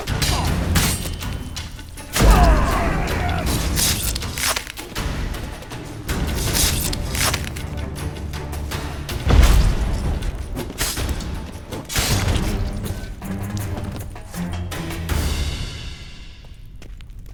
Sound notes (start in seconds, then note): 2.2 groan; 2.2 thunderous boom; 9.3 thunderous boom